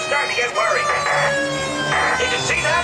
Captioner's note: static crackling